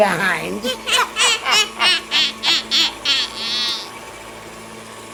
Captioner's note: both laughing